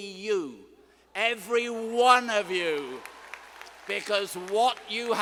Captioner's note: students applauding